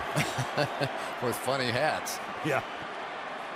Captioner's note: laughs